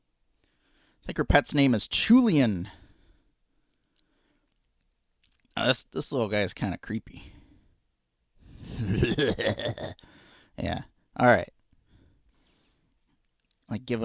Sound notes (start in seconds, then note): 8.7 creepy laugh